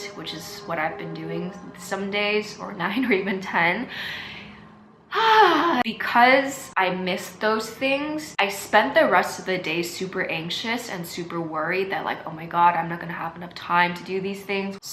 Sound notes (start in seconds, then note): 5.1 frustrating sigh